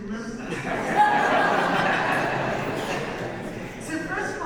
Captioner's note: audience laughs